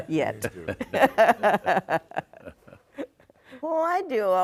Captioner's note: laughs